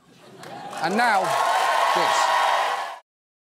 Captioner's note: cheering and applause